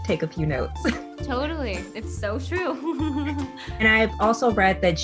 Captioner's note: giggling